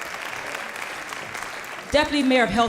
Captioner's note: applause